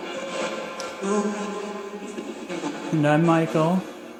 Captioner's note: ghostly Voice